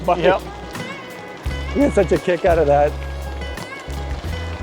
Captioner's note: chuckles